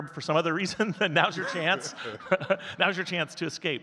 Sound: chuckles

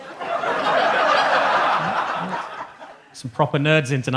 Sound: audience laughing

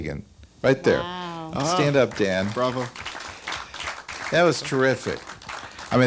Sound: applause

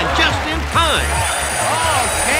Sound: bell ringing

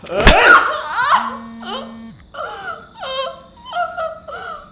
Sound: cries in pain

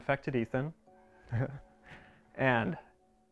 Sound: laughs

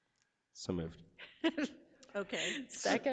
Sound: laughs

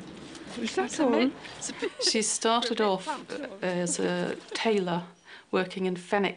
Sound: laughs

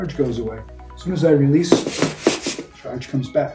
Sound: feet shuffling

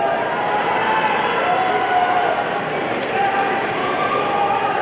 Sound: audience cheering

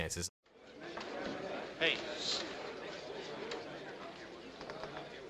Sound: courtroom chatter

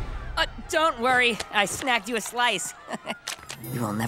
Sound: chuckles

